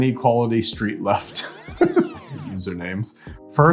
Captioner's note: host chuckling